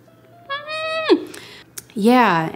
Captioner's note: whimpering